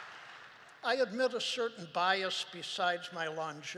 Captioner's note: applause